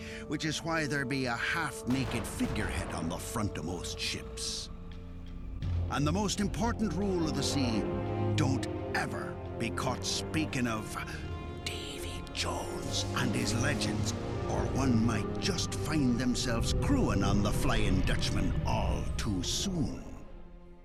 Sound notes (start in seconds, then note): 11.5 whispers